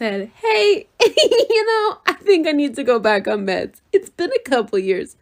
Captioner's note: chuckles